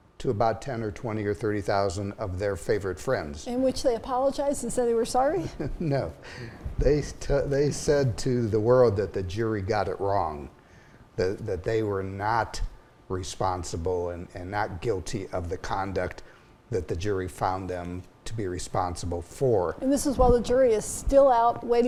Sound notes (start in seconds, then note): 5.4 chuckles